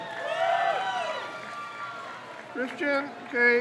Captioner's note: crowd cheers